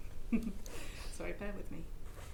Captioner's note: chuckles